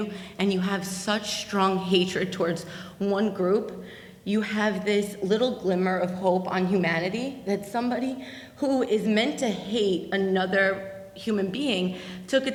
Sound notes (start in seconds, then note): none